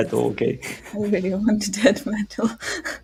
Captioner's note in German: lacht